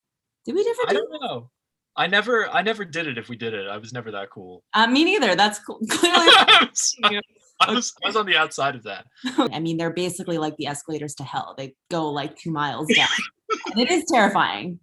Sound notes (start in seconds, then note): 5.9 laughter; 12.8 laughs